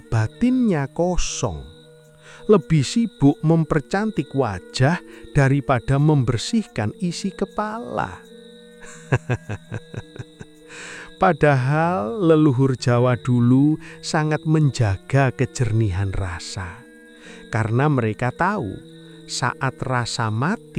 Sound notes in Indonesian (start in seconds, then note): 8.8 tertawa